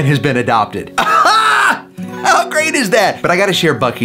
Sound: Rocky exclaiming

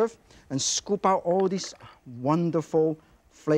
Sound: water gurgles softly

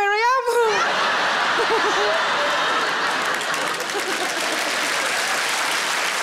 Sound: audience laughing and applauding

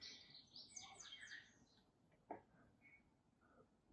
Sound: gentle birdsong

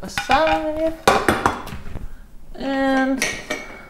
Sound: clanking

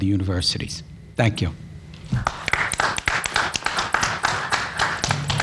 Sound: panel applauds

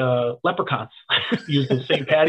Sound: laughing

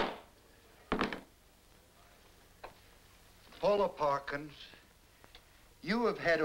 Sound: bangs gavel

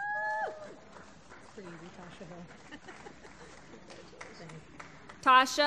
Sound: applause

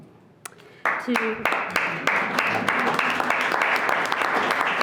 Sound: clapping

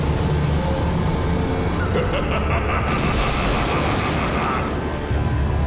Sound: laughing

